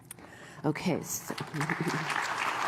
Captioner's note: applause